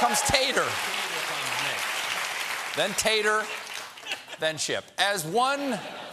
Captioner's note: cheers and applause